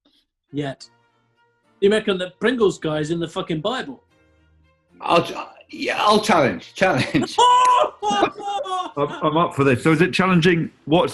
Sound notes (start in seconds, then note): 6.4 chortling